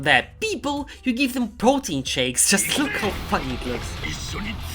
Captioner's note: hysterical laughter